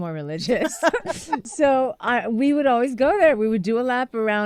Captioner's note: laughter